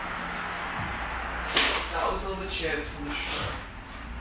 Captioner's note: object thuds